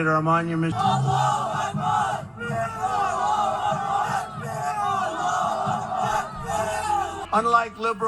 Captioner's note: crowd chanting Allahu Akbar